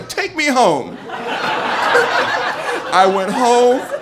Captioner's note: audience laughing